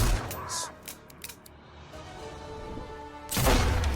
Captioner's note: gun clicking; gun booming